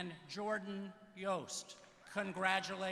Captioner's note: applause